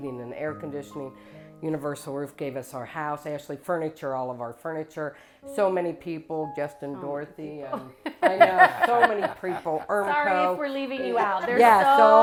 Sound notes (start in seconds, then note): 8.0 laughs